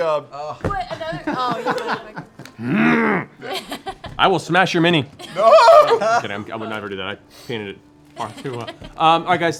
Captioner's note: frustrated growl